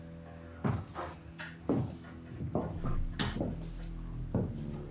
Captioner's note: footsteps thudding